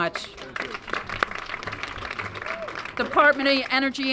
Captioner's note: applause